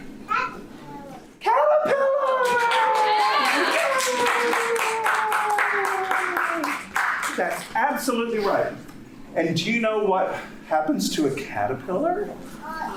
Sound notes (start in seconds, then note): 4.6 audience applauding